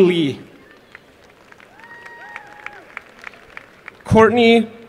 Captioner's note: applause